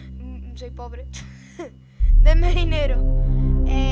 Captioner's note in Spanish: Entre risas